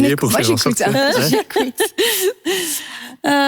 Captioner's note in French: rire